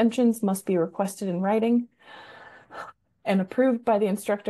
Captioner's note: takes long breath